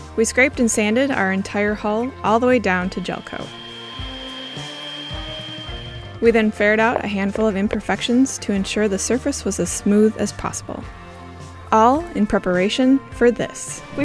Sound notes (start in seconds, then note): 2.7 machine whirring